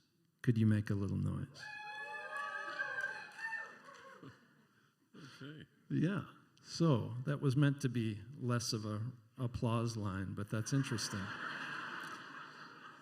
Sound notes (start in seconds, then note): 1.6 handful of cheers; 10.7 laughter